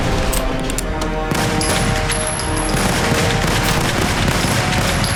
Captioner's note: gunshots blasting